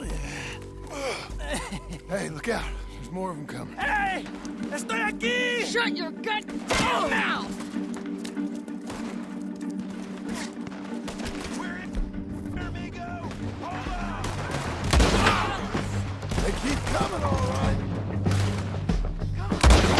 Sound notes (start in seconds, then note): 4.6 in Spanish